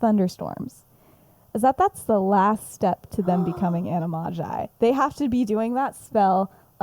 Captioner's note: gasps